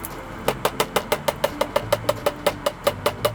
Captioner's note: can tapping